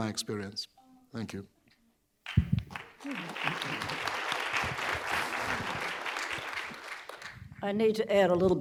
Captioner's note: applause